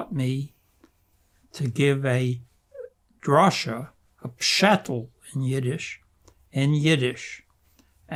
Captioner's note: yiddish